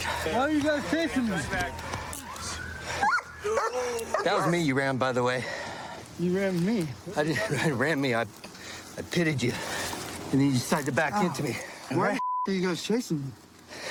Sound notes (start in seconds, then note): 4.1 dog barks